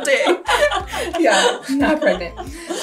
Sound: both laughing

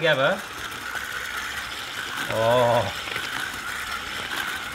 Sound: whisking

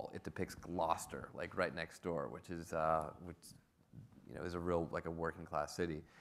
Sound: none

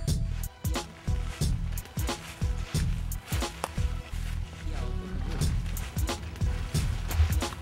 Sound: footsteps

